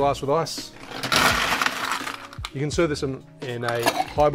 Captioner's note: ice crunching